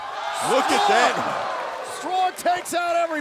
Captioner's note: cheers